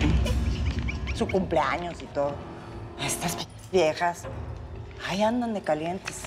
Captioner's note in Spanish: risas